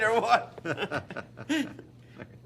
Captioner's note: laughing